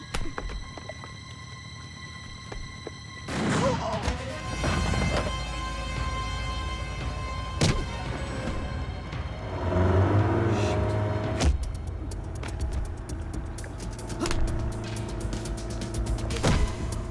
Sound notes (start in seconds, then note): 3.3 gun firing; 9.3 engine revving; 12.0 dramatic music